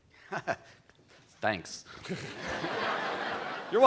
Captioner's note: laughs